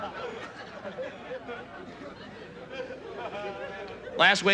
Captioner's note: audience laughs